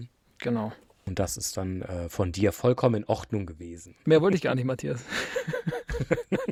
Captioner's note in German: gelächter